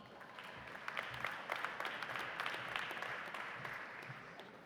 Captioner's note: audience applauding